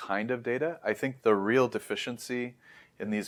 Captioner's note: inhales